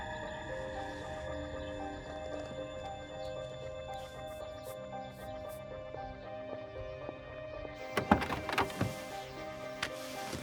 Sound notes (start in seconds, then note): 7.8 car door opens